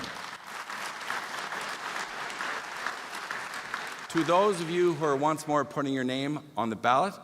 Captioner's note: applause